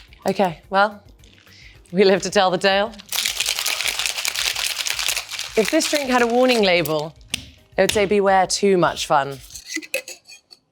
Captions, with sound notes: Okay, well, we live to tell the tale. [container shakes] If this drink had a warning label, it would say, "Beware too much fun."